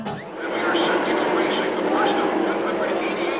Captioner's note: cars roar